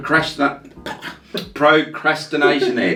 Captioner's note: laughs